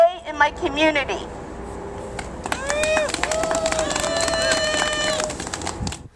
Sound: cheers and clapping

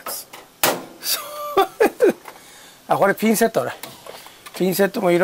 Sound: laughs

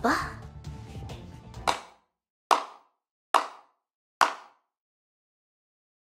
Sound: clap, clap, clap

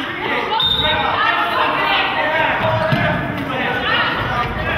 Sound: whistle blows

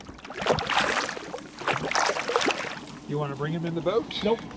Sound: fish splashing

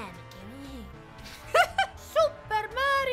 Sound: laughter

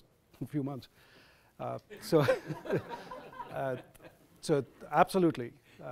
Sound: audience laughs

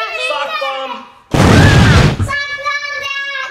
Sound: explosion

